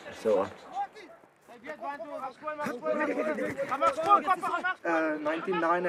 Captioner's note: speaking in afrikaans